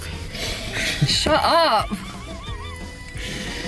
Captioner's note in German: lacht